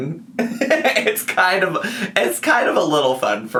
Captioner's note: laughs